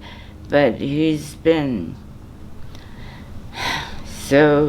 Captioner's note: sighs